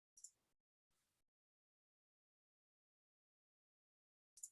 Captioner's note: mouse clicking